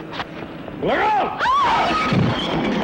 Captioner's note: lady screams; man thuds and falls